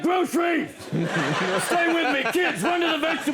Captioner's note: audience laughs